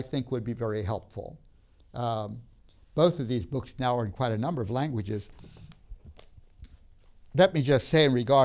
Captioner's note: rustling sounds